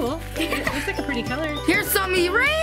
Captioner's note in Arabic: يضحك